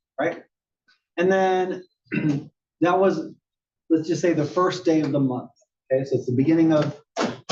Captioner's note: cough